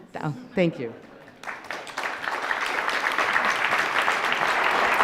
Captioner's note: audience applause